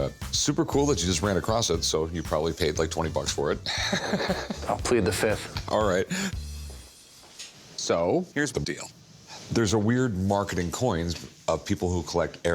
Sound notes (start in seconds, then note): 3.6 laughs